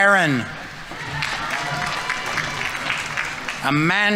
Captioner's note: audience applauding